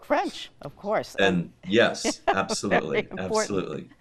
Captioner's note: laughing